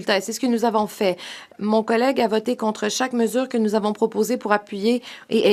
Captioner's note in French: voix de l'interprète